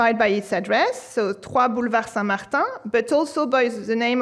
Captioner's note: speaking french